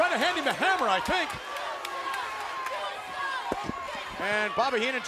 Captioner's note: applause